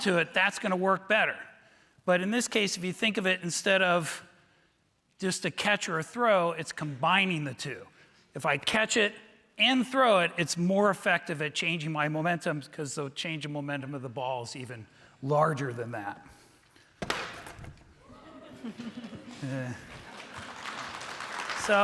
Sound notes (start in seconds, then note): 18.0 laughing; 19.4 audience applauding